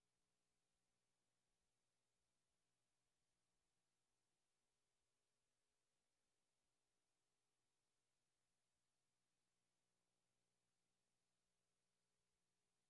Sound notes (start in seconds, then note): none